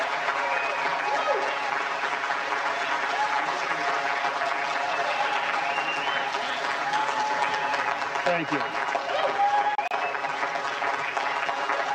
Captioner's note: applause